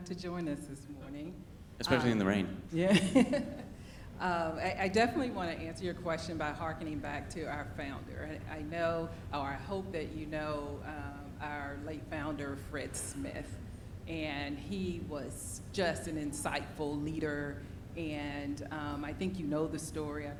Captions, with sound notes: to join us this morning. - Especially in the rain. - Yeah. (laughs) I definitely wanna answer your question by hearkening back to our founder and I know, or I hope that you know, our late founder Fred Smith and he was just an insightful leader. And I think you know the story.